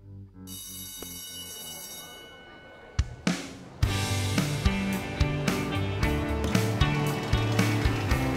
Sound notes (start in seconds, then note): 0.4 school bell rings